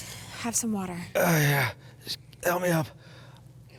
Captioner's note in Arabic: يشتكي